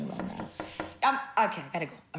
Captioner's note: knocking